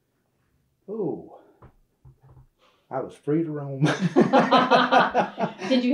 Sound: laughter

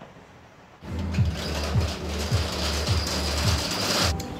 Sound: shutter noise

